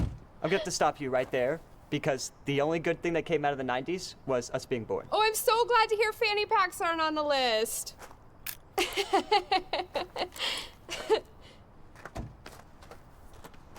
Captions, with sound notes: I'm going to have to stop you right there because the only good thing that came out of the 90s was us being born. Oh, I'm so glad to hear fanny packs aren't on the list. [Sawyer laughs]